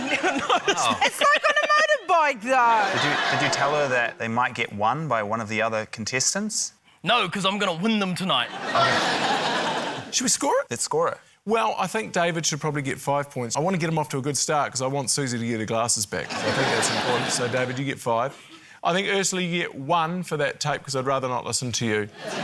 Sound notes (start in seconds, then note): 8.5 laughter